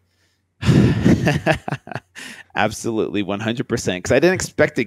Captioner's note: laughs